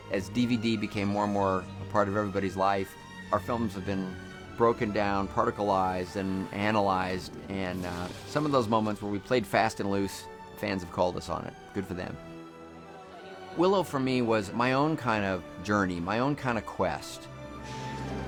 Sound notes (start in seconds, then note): none